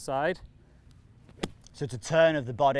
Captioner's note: golf club thwacking